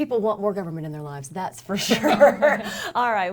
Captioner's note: laughs